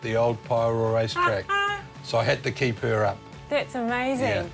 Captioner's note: laughs